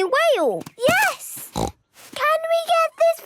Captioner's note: snorts